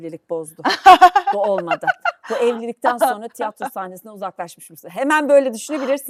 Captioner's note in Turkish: kahkaha